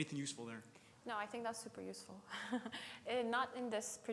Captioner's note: laughs